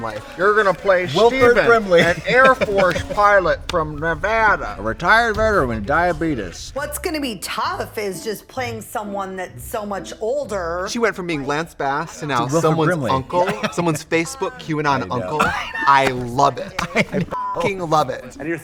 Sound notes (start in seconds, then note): 15.4 Katya laughs; 17.3 beep